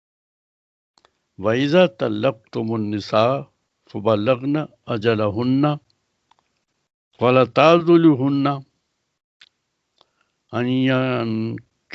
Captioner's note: recites in Arabic